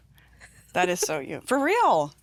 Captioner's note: laughing